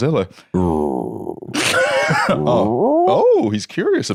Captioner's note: growls softly, then growls questioningly